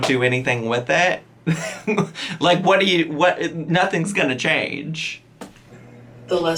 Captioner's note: chuckles